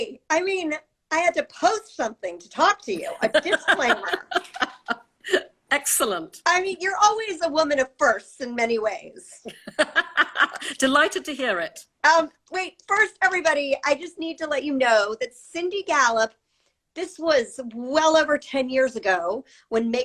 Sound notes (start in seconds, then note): 3.0 laughs; 9.5 laughs